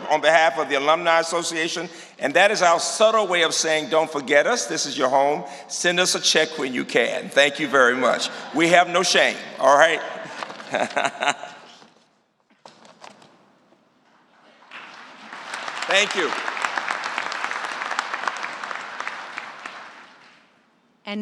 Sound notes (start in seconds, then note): 10.0 applause; 10.4 laughter